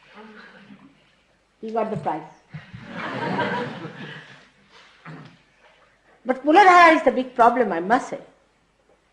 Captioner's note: laughter